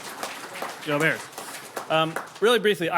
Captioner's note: people applauding